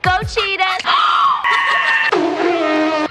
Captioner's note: bird screech; gasp; fart noise; giggling